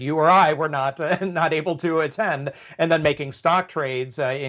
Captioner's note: laugh